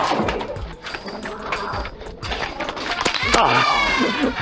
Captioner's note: footsteps and occasional thunking; laughter